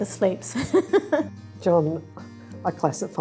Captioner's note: laughing